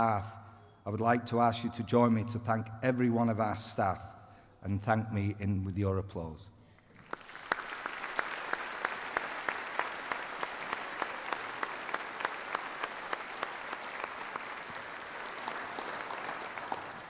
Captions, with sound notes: I would like to ask you to join me to thank every one of our staff and thank me in with your applause (Applause)